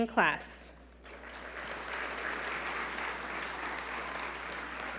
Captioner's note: audience applaud